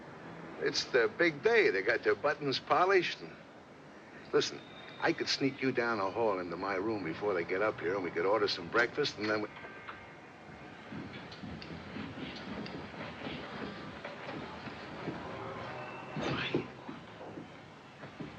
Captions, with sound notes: IT'S THEIR BIG DAY. THEY GOT THEIR BUTTONS POLISHED AND... LISTEN, I COULD SNEAK YOU DOWN THE HALL INTO MY ROOM BEFORE THEY GET UP HERE. WE COULD ORDER SOME BREAKFAST, AND THEN WE... [ Footsteps ] . QUIET. .